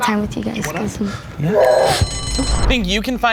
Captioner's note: buzzer buzzing